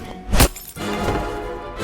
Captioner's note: glass shutters; upbeat music